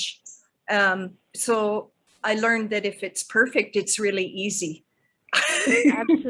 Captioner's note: laughing